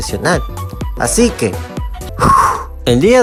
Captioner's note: exhales